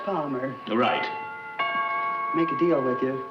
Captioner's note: doorbell rings